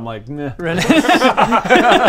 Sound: fickle laughter

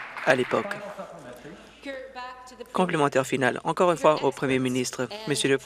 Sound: some Applause

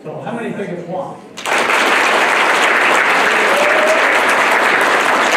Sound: applause

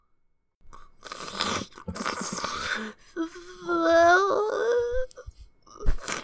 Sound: sniff

